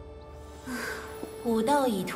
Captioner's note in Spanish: suspiro